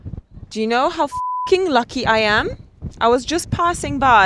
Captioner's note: beep